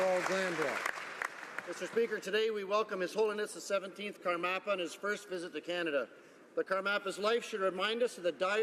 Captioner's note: applause